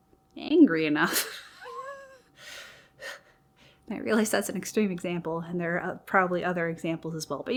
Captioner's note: laughs